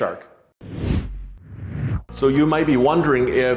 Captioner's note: whooshing